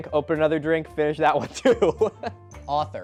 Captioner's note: laughing